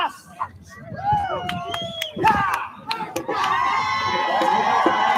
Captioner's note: crowd cheering